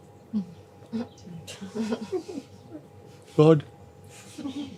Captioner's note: laughter